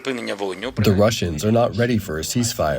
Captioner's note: through translator